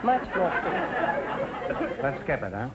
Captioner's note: audience laughter